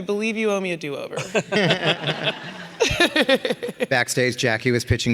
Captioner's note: all laughing